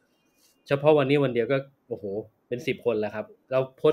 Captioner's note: speaks Thai